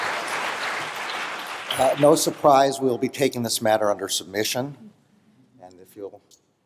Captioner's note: applause